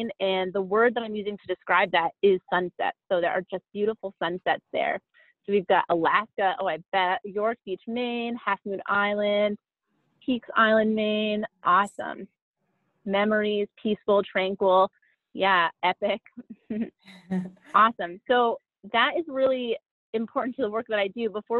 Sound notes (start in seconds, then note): 17.2 chuckles